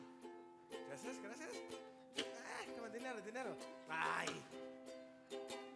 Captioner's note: speaking Spanish